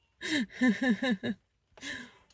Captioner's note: laughs